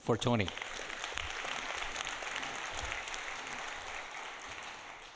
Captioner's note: audience applauding